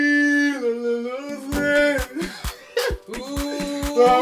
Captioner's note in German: Lachen